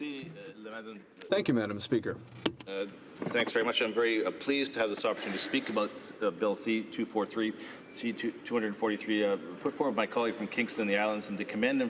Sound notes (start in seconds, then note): 4.8 speaking French